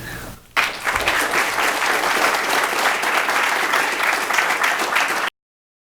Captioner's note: applause